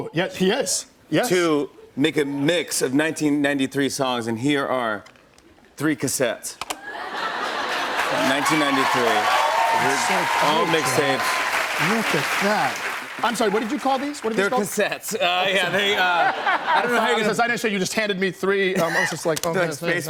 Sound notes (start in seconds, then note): 6.8 laughter; 6.9 cheers and applause